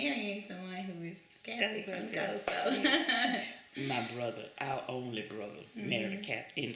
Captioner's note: laughs